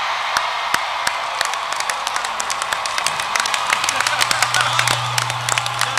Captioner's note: loud cheering and applause